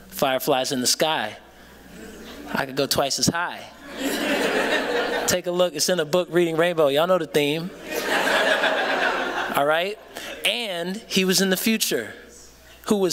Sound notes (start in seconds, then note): 7.8 laughter